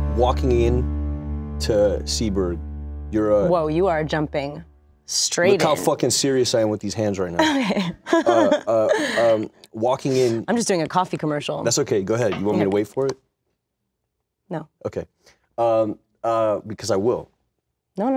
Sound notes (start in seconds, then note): 7.4 Kristin laughs